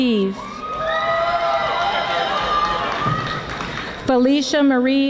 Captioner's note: audience applauding